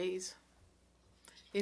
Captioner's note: speaking French